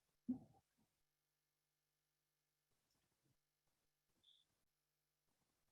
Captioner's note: silence